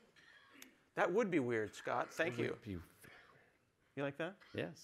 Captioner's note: laughter